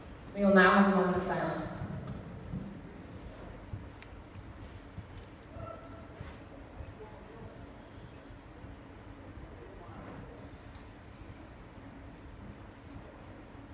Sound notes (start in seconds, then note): 2.0 silence